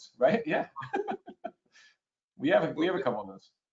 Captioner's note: laughs